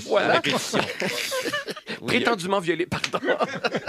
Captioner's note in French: rires